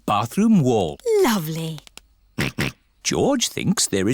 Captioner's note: snorts